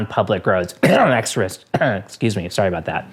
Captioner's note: cough